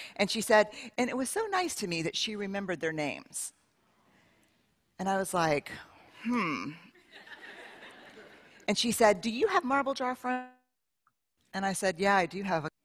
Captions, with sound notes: And she said, and it was so nice to me that she remembered their names. And I was like, huh. [Laughter] And she said, do you have marble jar friends? And I said, yeah, do you have.